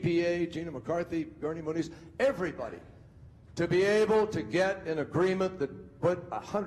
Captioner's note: speaking quickly